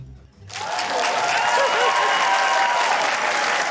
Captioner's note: cheering, applause